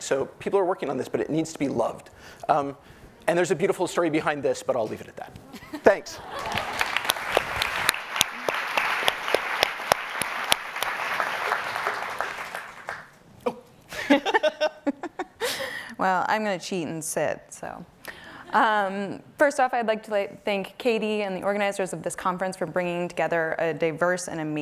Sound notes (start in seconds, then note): 5.4 woman laughing; 6.2 audience applauding; 13.9 women laughing